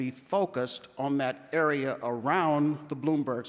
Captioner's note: none